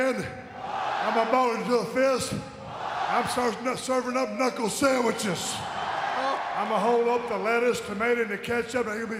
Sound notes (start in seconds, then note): 4.7 audience cheering